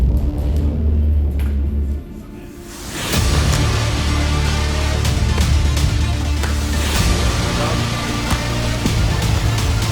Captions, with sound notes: [strikes thwacking pads] >> Two-three-low.